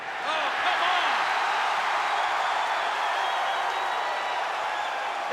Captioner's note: audience cheers